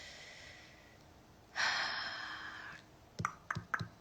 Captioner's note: woman exhales; tongue clicking